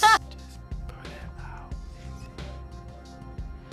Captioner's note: whispers